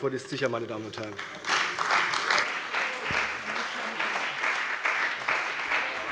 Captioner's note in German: Beifall bei der CDU und dem BÜNDNIS 90/DIE GRÜNEN